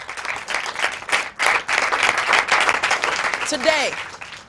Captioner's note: applause